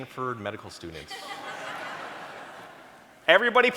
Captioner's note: audience laughing